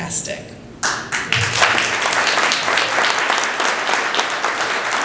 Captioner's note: applause